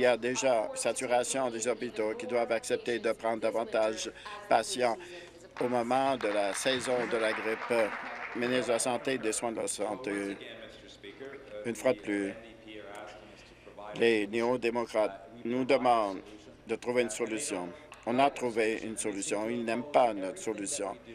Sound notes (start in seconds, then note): 9.1 applause